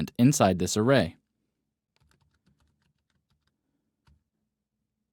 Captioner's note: typing